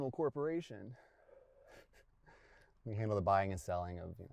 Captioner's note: chuckles